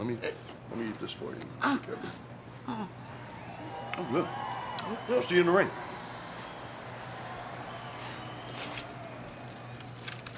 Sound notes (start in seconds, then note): 7.1 crowd cheering